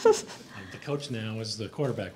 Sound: laughs

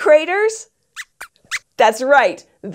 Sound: squeaks squeaks

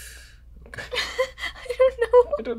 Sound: laughter

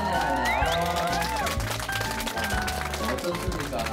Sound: cheering

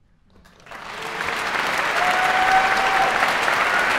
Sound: applause

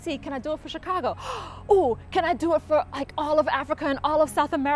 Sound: gasp

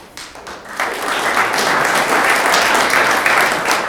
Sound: room applauds

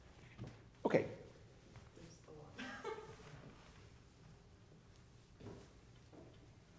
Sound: laughs

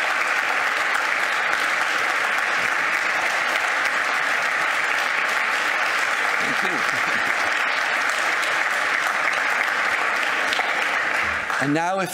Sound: clapping

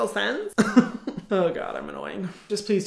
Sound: chuckling

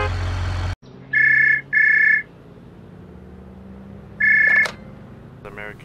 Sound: phone rings

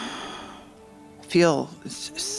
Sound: heavy sigh

